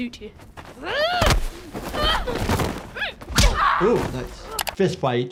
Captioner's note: Laena grunting furiously